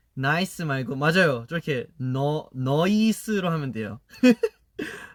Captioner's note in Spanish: acento australiano